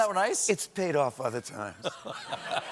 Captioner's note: laughter